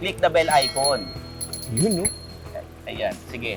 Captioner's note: scooter rings bell